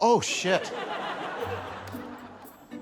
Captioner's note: laughter